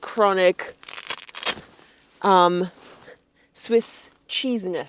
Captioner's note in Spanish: raspado de velcro